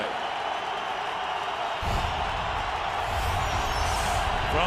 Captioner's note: cheering